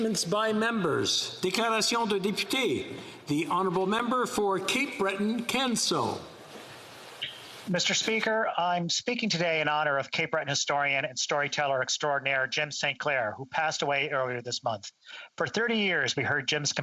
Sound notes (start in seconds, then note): 7.1 speaking French